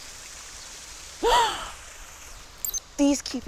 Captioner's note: gasps